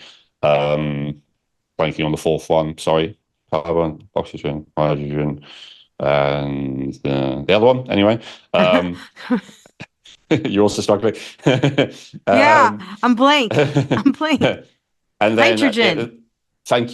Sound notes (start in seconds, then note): 11.9 laughs